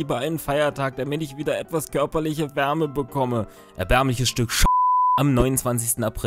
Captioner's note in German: piep